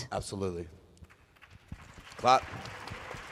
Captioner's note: applause